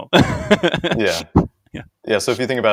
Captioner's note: laughs